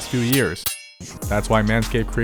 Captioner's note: clippers clank